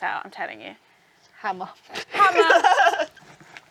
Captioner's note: laughs